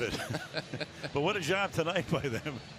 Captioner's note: laughter